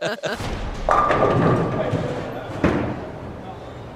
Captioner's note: pins fall